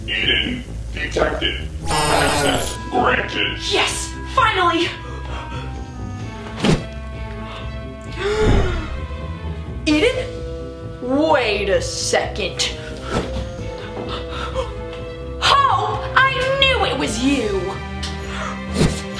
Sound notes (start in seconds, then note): 4.7 suspenseful music; 8.3 gasps